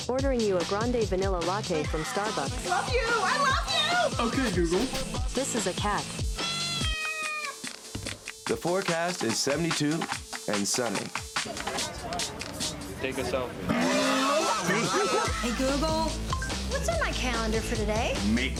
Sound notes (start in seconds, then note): 6.3 meowing; 13.7 animal barks